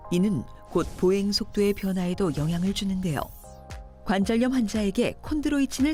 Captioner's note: voiceover